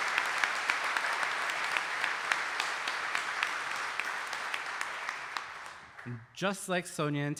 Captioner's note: audience applauding